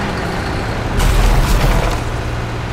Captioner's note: loud crash